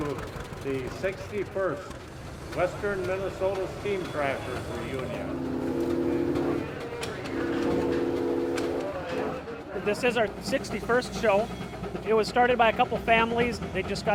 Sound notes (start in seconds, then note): 6.6 machines whirr